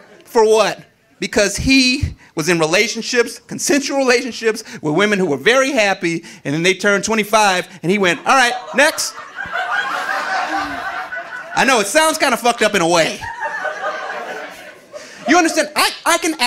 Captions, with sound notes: For what? Because he was in relationships, consensual relationships, with women who were very happy and then they turned 25, and he went, "All right, next." (audience laughing) I know it sounds kind fucked of up in a way. (audience laughing) You understand?